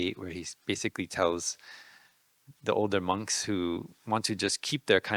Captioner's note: none